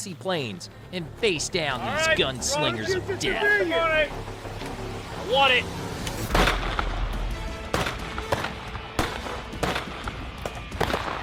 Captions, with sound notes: and face down these gunslingers of death. (tense music) - I want it. (gunshots) (rousing music)